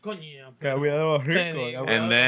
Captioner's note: speaking Spanish